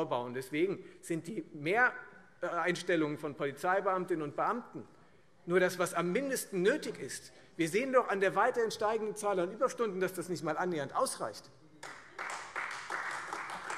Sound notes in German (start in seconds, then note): 11.8 Beifall